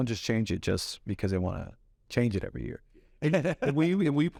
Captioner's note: laughs